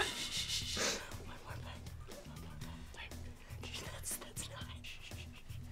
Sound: whispering

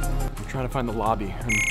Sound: light electronic music; beeping

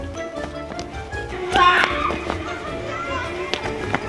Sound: yelling

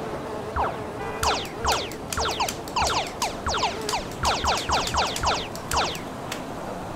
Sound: video game sounds

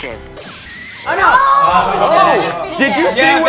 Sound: everyone murmurs

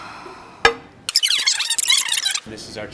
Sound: fast forward squeaking

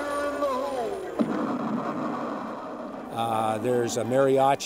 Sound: explosion

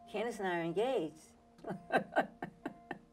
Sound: chuckles

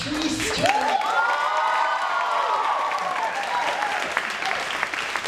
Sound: cheering and applauding

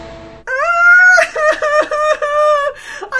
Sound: Allison cries

